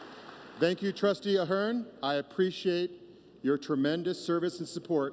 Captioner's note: applause